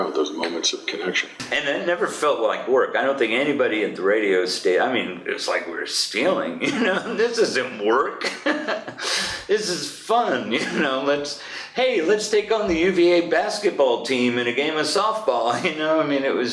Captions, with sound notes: Those moments of connection. And it never felt like work. I don't think anybody at the radio sta...I mean it it was like we were stealing. You, know [laughs] This isn't work. [laughs] This is FUN, you know. Let's...hey lets take on the UVA basketball team in a game of softball. You know, I mean, it was